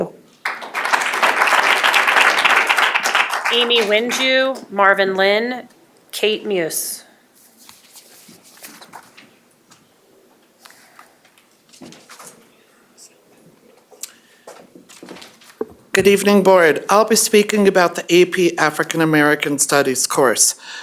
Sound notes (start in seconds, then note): 5.2 applause